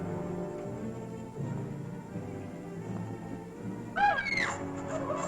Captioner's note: girls screaming